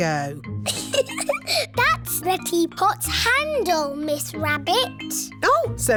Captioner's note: giggles